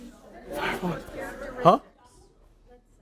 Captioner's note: chattering